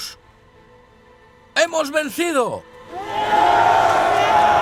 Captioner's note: men cheer; man cheers